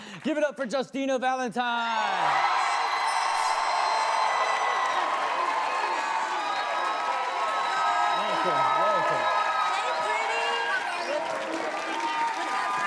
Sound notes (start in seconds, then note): 1.9 audience cheers; 5.4 audience whooping